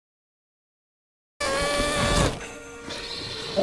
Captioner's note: stock deflation sound; chomp